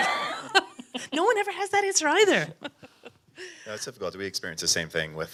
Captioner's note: laughs